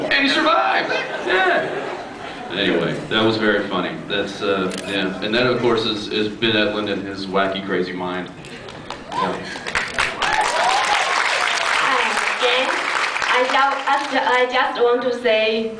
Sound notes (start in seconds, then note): 9.0 cheers, applause